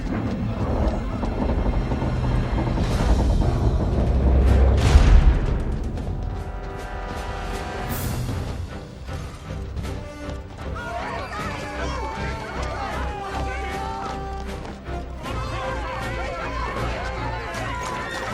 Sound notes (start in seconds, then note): 10.6 clamouring and screaming